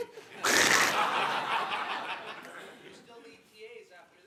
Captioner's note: laughter